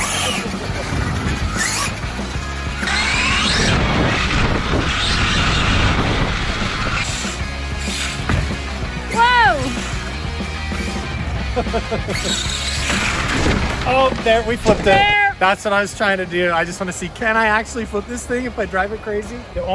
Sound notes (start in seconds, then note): 0.0 laughing; 1.2 tires whirring; 2.0 upbeat music; 11.4 laughing